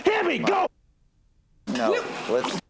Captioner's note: muted